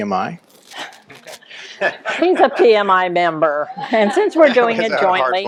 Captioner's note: laughter